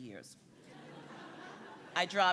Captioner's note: audience laughs